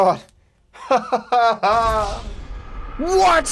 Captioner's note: laughs